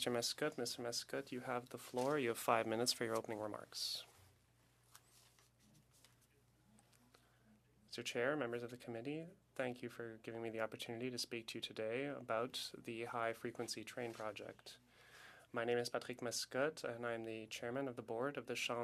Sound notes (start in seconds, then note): 3.9 speaking French